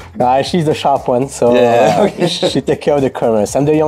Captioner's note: laughs